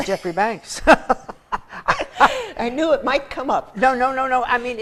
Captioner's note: laughter